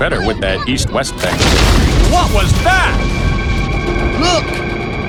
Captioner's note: loud rumble and crash